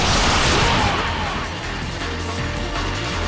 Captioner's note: echoing wail